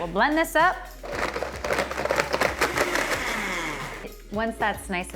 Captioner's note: blender blending